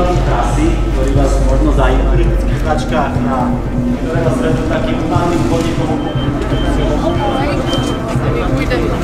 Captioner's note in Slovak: Zvuky chaosu a diskusie pred behom